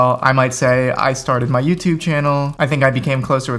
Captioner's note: fingers typing